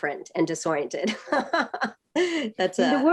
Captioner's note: laughter